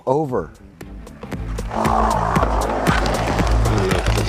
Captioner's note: wheels screeching